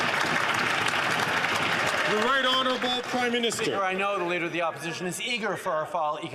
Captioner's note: some Applause